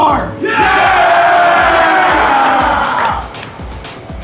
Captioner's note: audience cheering